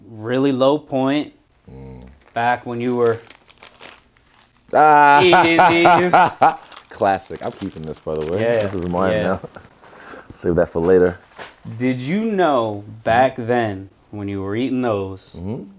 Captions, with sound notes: Really low point. Back when you were (Israel laughs) eating these! - Classic. I'm keeping this by the way. - Yeah yeah. - This is mine now. Save that for later. - Did you know back then, when you were eating those,